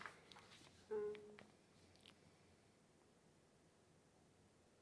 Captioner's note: pauses 8 seconds